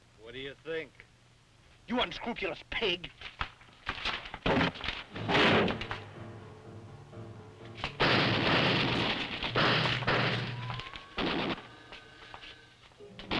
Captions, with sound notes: - What do you think? - You unscrupulous pig! (door crashes) (guns firing)